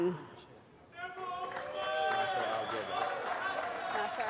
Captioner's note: applause